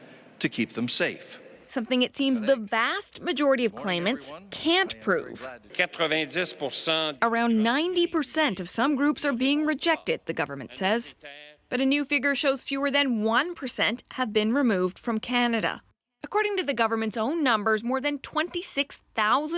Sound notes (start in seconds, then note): 9.8 speaking French